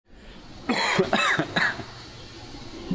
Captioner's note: cough